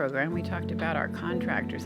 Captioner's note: none